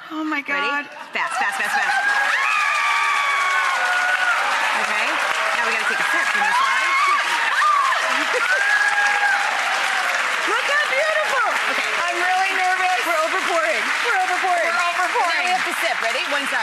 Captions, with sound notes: Oh my God. Fast, fast, fast, fast. (audience clapping and cheering) Look how beautiful. I'm really nervous. We're over-pouring, we're over-pouring. We're over-pouring. Now we have to sip, ready?